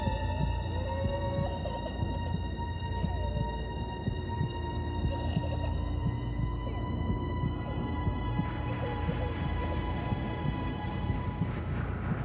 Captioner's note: baby crying